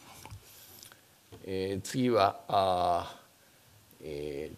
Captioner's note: speaking japanese